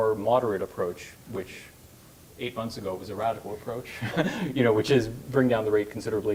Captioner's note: laugh